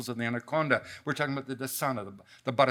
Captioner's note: speaks in a foreign language